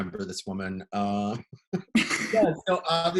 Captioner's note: laughter